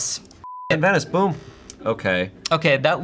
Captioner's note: beep